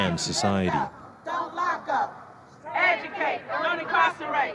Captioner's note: chanting